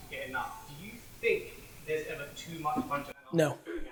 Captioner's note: murmurs